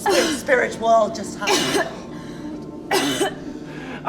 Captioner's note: coughing and gasping